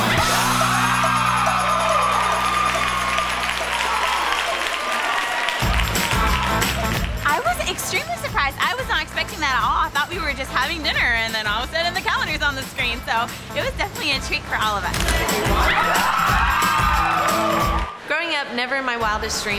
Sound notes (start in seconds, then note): 0.0 crowd screaming and clapping; 6.1 jaunty music; 14.9 camera snaps; 15.5 all screaming